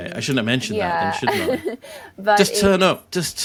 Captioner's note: laughs